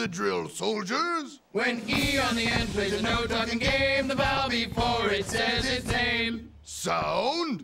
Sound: chanting

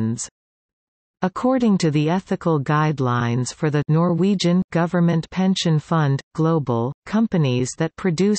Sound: Norwegian

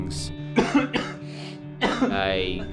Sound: coughing

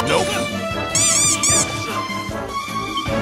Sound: squeaks

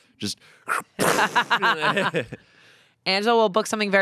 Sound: everyone laughs

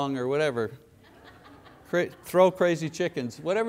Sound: congregation laughs

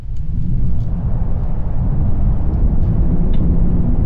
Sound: wind blowing

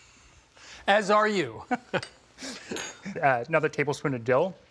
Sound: chuckles

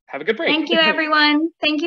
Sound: laughs

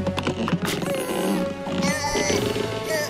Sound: grunting

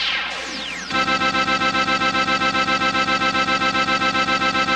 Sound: lagging noises

